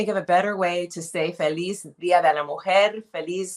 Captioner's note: speaking in Spanish